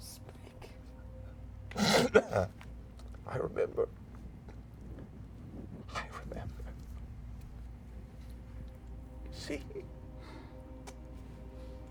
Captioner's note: sniffles and coughs